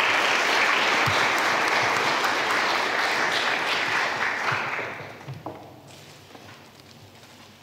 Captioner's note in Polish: oklaski